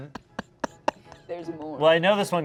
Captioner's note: laughs